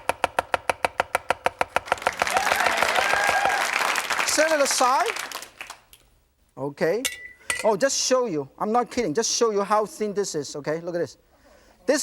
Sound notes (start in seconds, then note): 1.8 crowd cheering